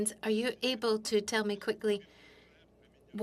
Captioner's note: speaking French